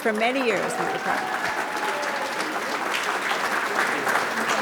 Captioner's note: audience claps